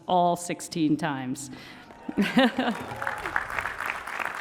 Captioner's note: applause